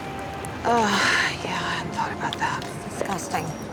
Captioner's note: sighs